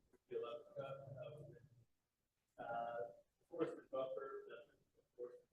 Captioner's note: faintly speaking